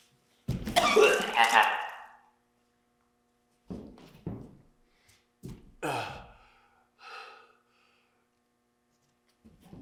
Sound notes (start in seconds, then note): 0.7 Jacob retching; 5.8 Jacob groans